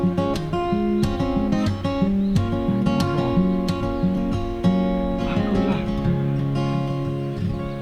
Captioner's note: haha